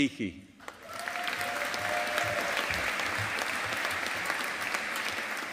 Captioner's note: audience applauding